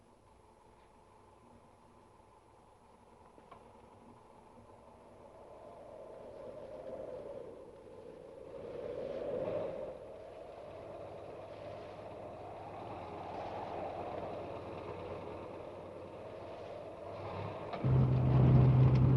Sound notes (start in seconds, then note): 5.8 wind howling